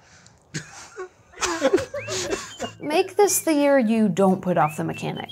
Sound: laughing

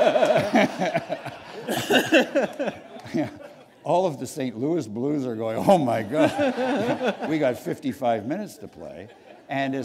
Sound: laughter

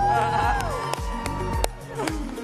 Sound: applause

